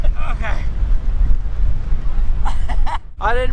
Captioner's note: laughs